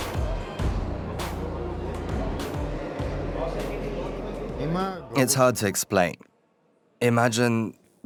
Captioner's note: voiceover